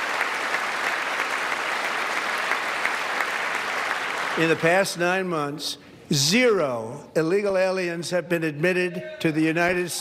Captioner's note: applause